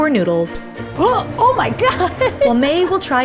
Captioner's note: laughs; gasps